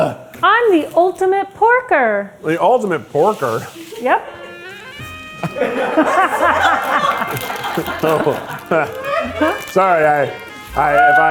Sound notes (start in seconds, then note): 4.8 crew laughing; 4.9 sensual saxophone music